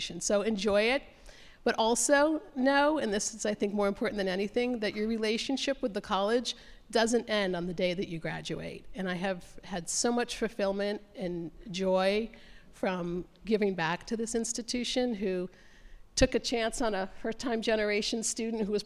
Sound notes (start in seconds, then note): none